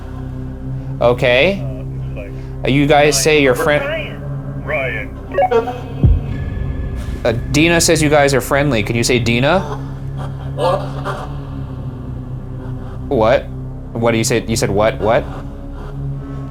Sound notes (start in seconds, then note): 4.6 walkie talkie beeps; 10.8 garbled voice shouts